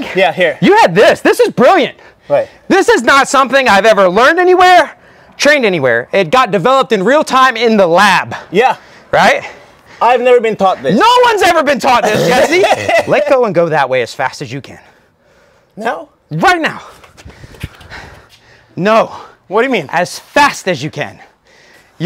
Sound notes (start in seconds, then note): 11.9 laughs